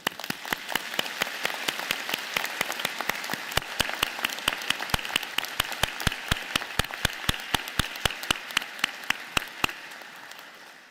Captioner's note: applause